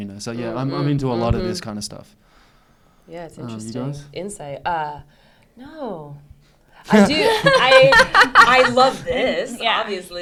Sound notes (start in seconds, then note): 6.9 co-stars laugh; 7.0 laughs loudly